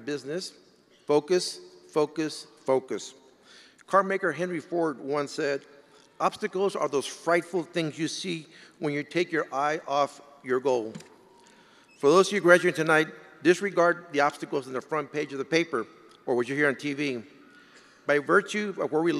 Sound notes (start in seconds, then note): none